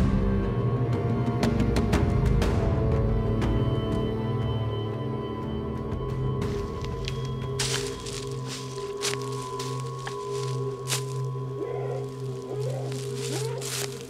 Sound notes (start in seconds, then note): 11.8 distant calls